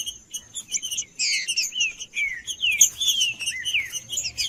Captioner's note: trinca ferro cantando